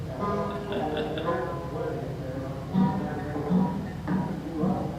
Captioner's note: laughs; chuckles